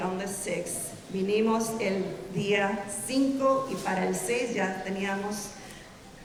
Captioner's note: speaking in Spanish